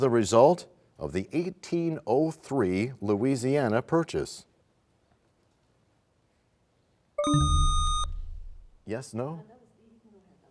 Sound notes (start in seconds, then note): 7.2 bell chimes; 7.2 buzzer sound